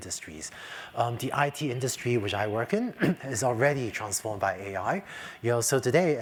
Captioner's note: cough